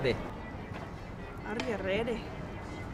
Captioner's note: in a faux irish accent